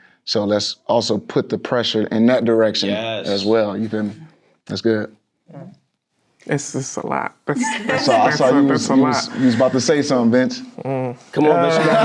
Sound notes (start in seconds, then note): 7.6 loud laughter; 11.6 loud laughter